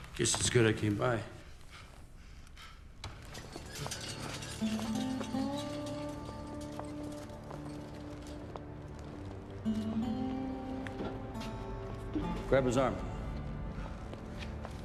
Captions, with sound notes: Guess it's good I came by. (PANTING) Grab his arm.